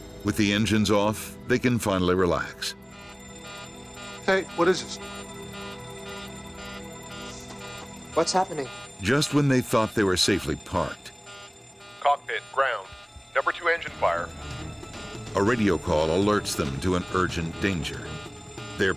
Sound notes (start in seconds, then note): 0.3 voiceover; 3.1 fire alarm buzzes; 9.1 voiceover; 15.5 voiceover